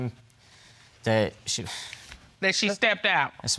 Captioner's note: hesitatingly